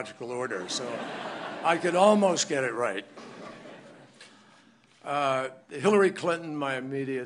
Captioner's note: laughter